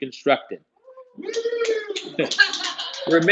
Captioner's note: cheers